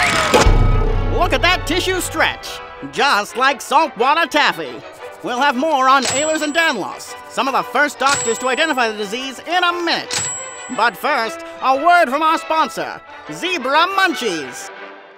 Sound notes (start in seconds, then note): 0.1 twang; 8.7 scribble followed by ding SFX